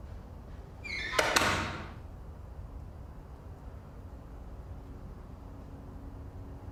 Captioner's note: door closes